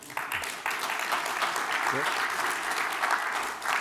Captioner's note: applause